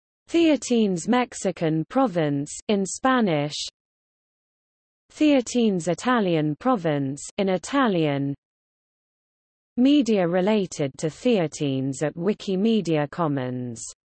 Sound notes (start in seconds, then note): 3.8 in Spanish; 8.4 in Italian